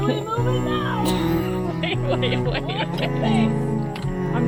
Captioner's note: laughter